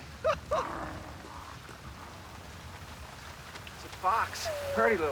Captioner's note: growls softly